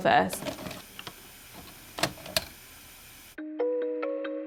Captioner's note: VHS player click